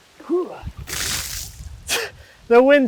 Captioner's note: water splashing